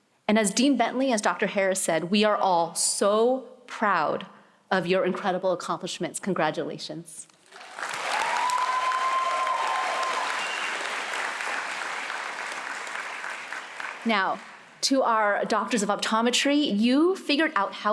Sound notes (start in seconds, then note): 7.4 applause